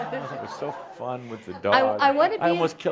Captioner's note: she chuckles